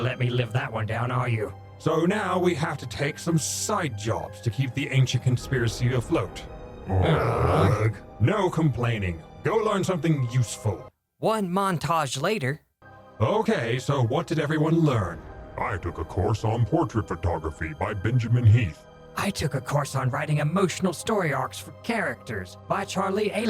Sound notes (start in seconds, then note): 6.9 collective Groan